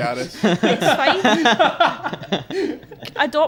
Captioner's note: laughter